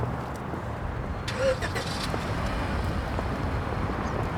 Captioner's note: car engine starts